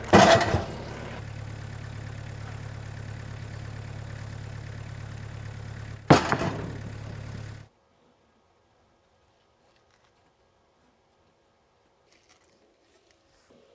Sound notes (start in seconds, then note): 0.0 wood crashing down; 1.8 engine running calmly; 5.8 wood crashing down